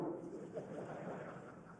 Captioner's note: laughter